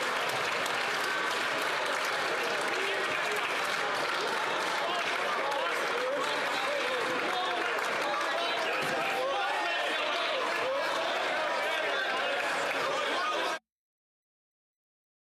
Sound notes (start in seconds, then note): 3.5 some Applause